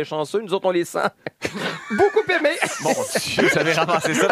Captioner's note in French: rires